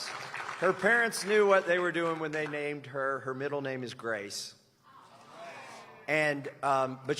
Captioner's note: cheers and applause